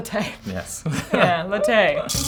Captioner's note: chuckles